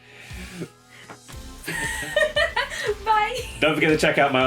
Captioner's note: laughing